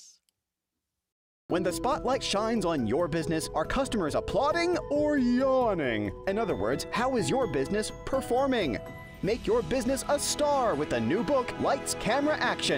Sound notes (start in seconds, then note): 1.5 voiceover